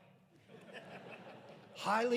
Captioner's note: audience laughing